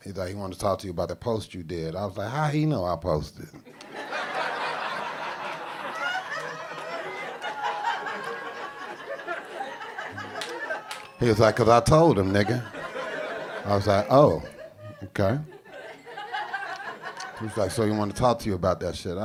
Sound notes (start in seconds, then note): 4.1 audience laughing